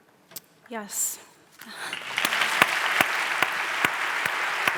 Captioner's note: audience applauds